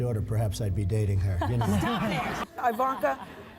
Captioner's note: laughs